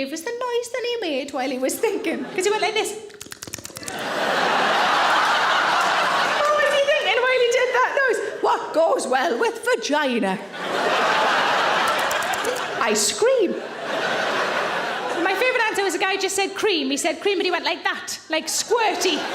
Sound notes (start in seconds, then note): 3.0 smacking lips; 3.8 audience laughing; 10.4 audience laughing; 11.9 smacking lips; 13.8 audience laughing